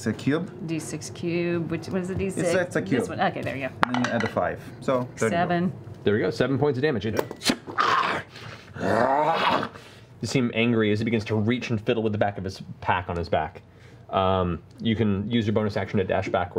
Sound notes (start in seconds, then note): 8.7 grunting